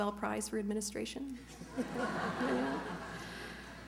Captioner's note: laughter